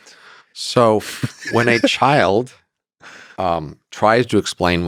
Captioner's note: Lex laughs